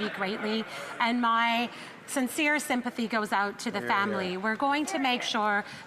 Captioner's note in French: voix de l'interprète